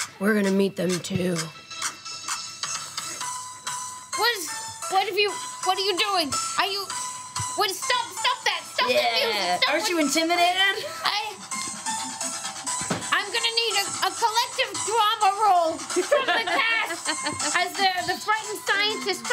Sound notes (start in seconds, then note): 3.0 intense music; 9.8 intense music; 15.8 group giggling